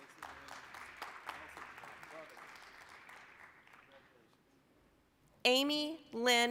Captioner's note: applause